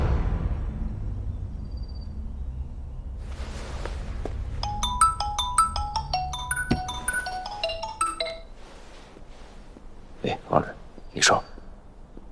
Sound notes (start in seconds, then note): 4.6 incoming Call